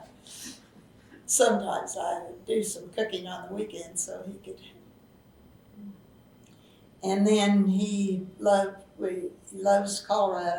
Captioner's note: laughs